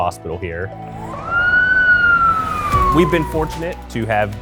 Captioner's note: siren ringing